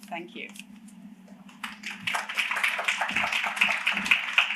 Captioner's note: applause